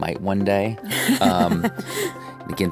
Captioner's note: chuckles